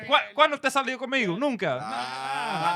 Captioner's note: speaking In Foreign Language